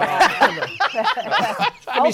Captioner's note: laughs